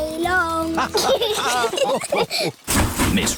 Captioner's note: laughter